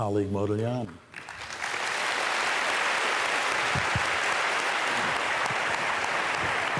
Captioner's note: applause